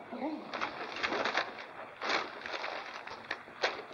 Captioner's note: paper rustles